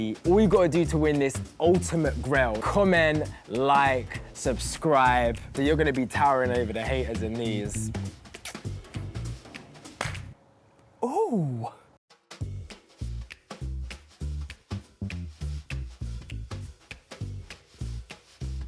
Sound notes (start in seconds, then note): 9.8 claps; 13.0 kicky music